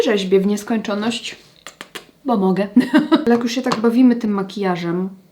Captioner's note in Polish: śmiech